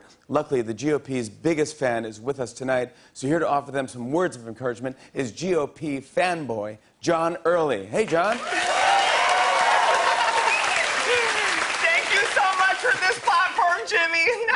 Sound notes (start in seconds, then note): 8.2 cheers and applause; 8.8 laughs; 14.3 laughs